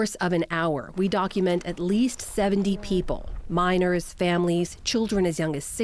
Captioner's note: speaking in spanish